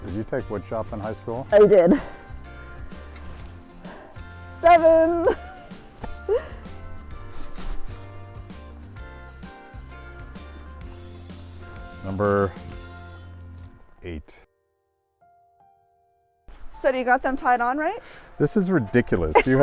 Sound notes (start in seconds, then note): 1.6 chuckles; 2.7 upbeat music; 4.6 laughs; 7.3 sawing; 8.4 upbeat music